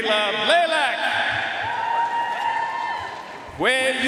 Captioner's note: audience cheering and applauding